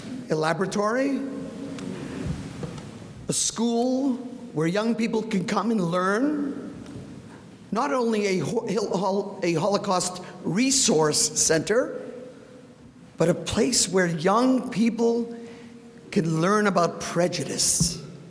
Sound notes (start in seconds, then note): none